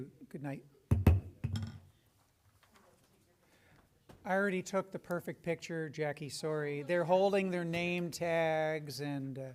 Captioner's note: knock, knock